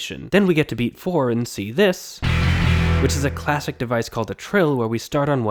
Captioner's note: bang